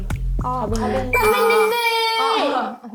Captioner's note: entrance sound effect